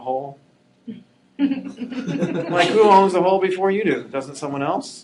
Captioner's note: laughing